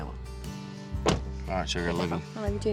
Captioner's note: door closes